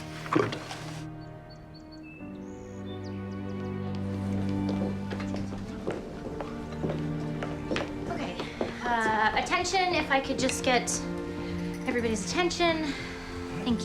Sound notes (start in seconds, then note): 0.0 birds chirping; 3.3 light music